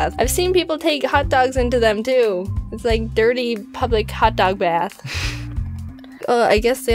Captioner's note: lols